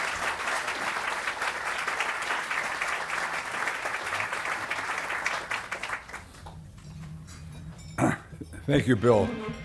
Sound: applause

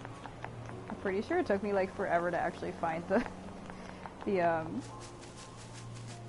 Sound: laughs

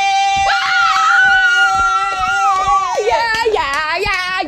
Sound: all cheering

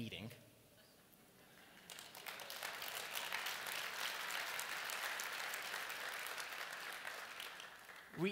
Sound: applause

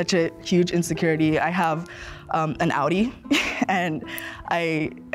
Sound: laughs

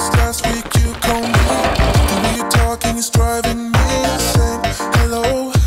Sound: coffee beans rattle; coffee beans grind

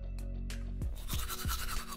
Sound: brushing teeth audio

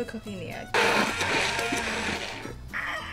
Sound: blender whirring

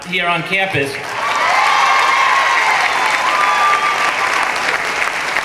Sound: clapping and cheering

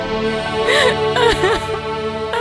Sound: crying

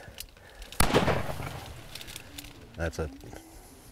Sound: gunshot

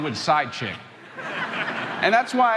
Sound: crowd laughing

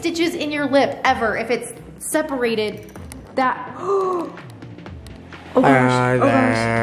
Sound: gasping

